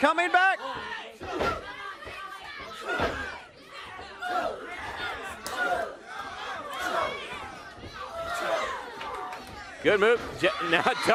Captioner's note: crowd chatter